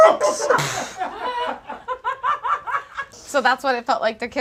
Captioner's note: audience laughs